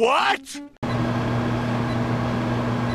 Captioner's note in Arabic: صوت الفرن